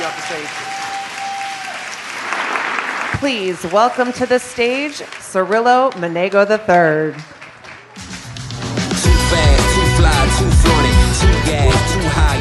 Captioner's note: applause